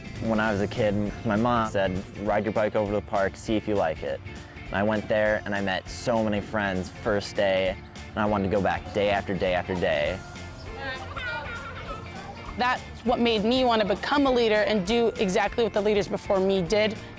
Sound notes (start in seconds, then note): 11.2 children laughing